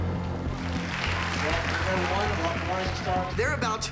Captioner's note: applause and cheering